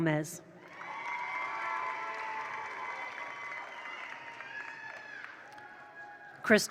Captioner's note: attendees cheer; attendees applaud